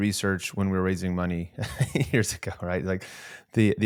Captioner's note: chuckling